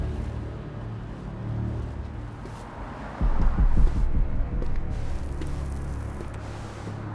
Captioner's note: gentle suspenseful music; traffic whooshes in distance